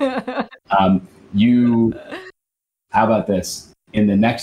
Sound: laughing

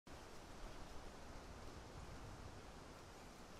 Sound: wind blowing

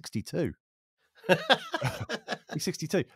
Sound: laughs

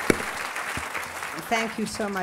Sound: applause

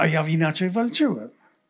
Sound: foreign language

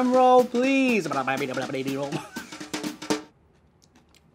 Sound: laughing

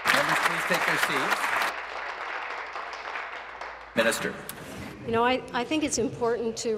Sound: applause

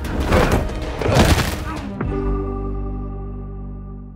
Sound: loud crash; upbeat music

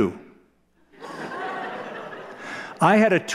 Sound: laughter

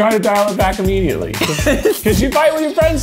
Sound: laughs

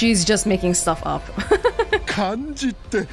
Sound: chuckles

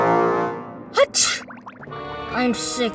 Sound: sneezes

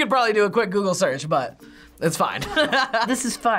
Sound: laughs

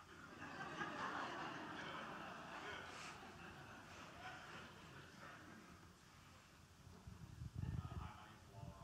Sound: laughter

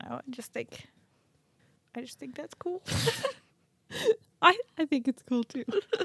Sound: laughs

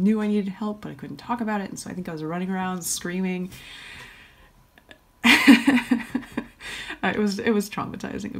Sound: hahahahaha

